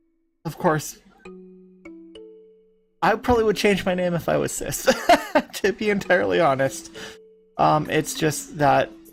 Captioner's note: laugh